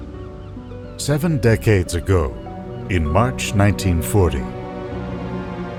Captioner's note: voiceover